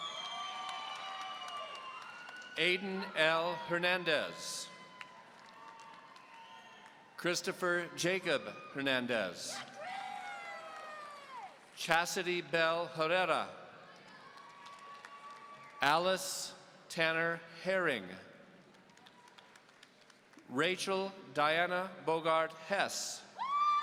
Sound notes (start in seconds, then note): 0.1 audience cheering; 4.7 audience applauding; 14.2 audience applauding; 18.7 audience applauding